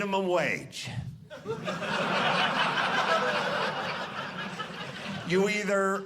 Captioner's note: audience laughing